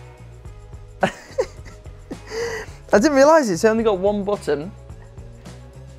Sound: laughing

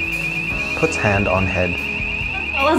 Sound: very loud fire alarm goes off

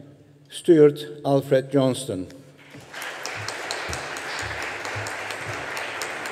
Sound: audience applauding

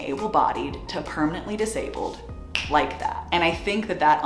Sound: snaps fingers

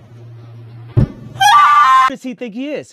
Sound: screams

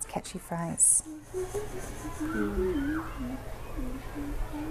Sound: student hums

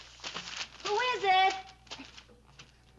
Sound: shouting

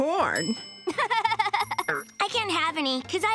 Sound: laughing

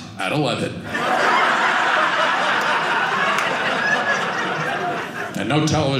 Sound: audience laughing

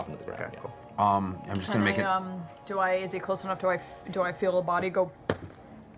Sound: thud

